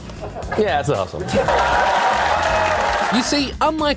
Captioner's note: laughter; cheering and applause